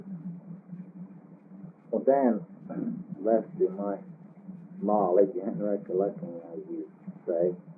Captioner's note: clears throat